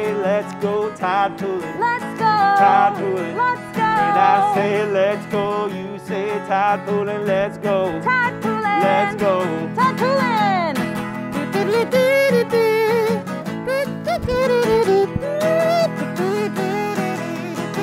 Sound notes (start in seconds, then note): 10.9 upbeat guitar music; 11.3 imitates kazoo